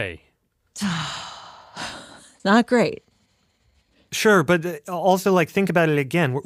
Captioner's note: sighs